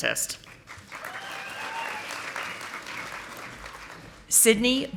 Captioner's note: audience applauding